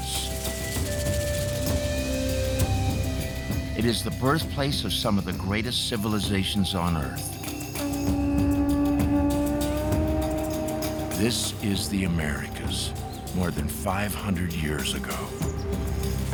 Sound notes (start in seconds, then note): 7.8 conch horn trumpets